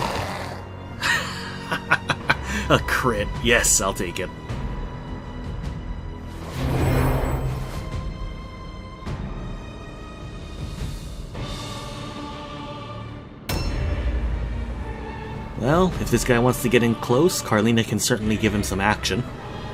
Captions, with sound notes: *laughter* A crit, yes, I'll take it! Well, if this guy wants to get in close, Karlina can certainly give him some action.